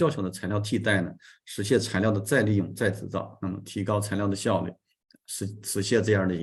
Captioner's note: continues to speak in Chinese